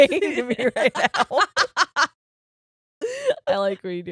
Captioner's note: laughing